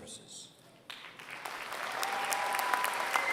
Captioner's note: applause